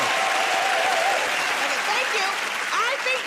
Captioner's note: cheering and applause